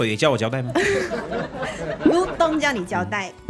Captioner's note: laughs